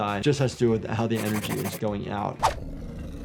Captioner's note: chalk scratching; Vermithor growling